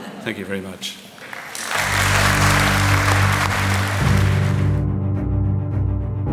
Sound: applause

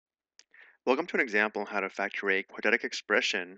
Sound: voiceover

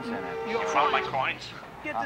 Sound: on phone

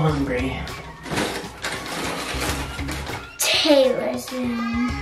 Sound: shuffling

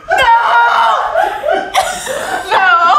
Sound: all laughing; screams

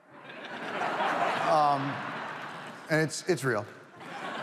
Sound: audience laughs

